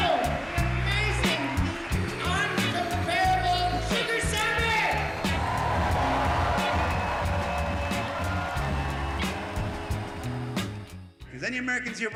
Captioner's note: cheers and Applause